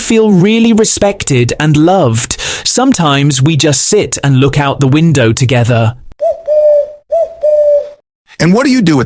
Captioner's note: dove coo